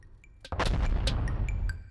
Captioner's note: explosion sound effect